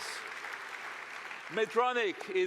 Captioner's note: applause